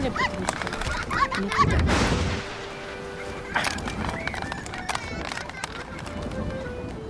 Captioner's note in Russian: детский смех; шум прибоя